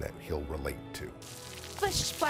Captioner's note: sprinkling water